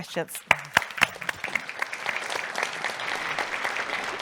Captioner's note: audience applauds